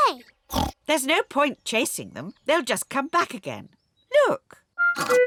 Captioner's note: oinks